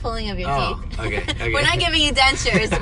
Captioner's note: laughs